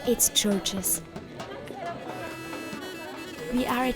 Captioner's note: indistinct chatter